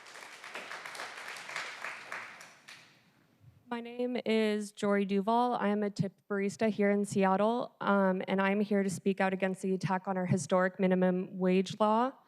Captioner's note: applause